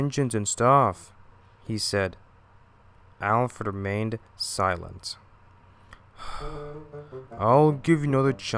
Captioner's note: sigh